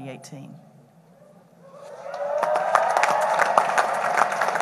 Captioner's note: applause